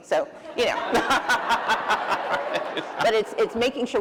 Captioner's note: laughter